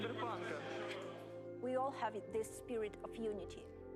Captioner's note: speaking English